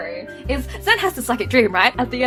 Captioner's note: with audible disdain